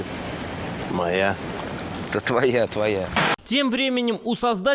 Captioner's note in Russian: помехи